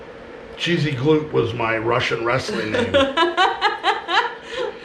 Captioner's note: laughing